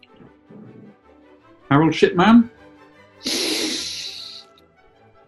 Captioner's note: sniggers